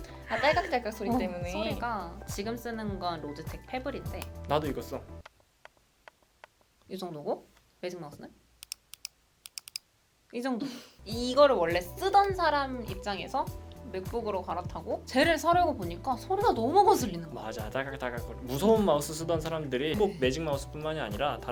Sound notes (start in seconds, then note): 5.2 compare the click sound